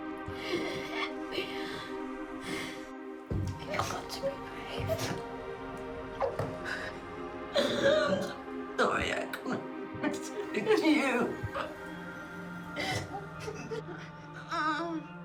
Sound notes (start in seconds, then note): 7.5 Mia crying; 12.7 both crying